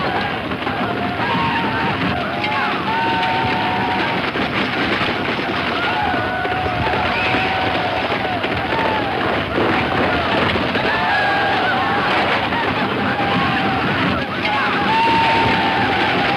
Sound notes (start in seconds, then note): 10.4 gun fires